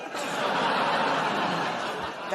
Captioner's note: laughter